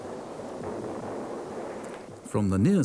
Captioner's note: cannon blasts